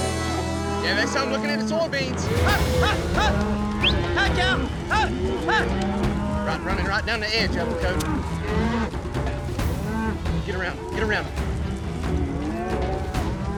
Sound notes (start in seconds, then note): 3.7 booger whistling; 8.3 mooing